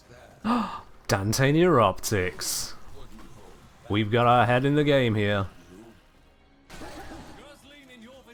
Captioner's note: gasp